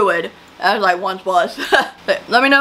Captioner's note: chuckles